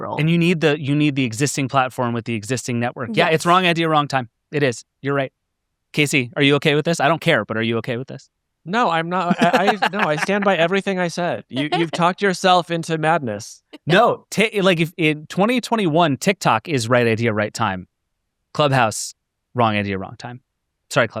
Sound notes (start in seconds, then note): 8.8 chuckling